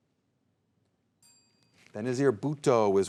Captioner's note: soft chiming